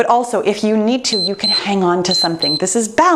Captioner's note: timer beeps